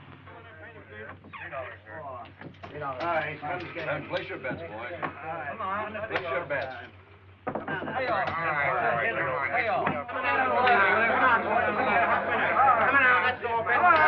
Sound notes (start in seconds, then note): 0.2 men chattering; 10.2 loud chatter